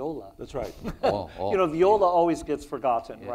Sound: laughs

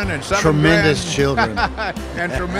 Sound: laughs

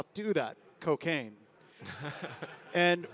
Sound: laughs

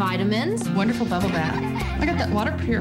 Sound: kids giggling

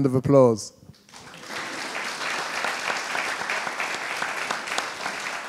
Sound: audience applauding

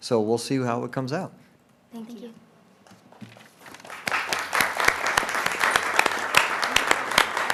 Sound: applause

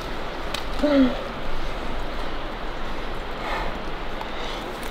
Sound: groans

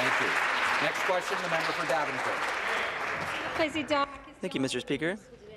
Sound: applause

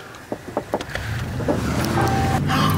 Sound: car Speeding Off; chuckles

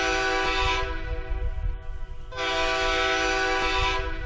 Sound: train horn hooting

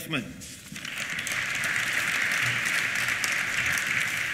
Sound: applause

